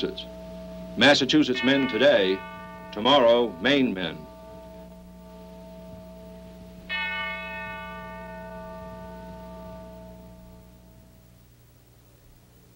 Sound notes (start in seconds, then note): 6.8 bell ringing